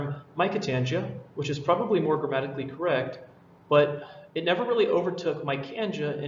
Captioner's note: sigh